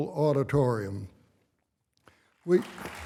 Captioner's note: applause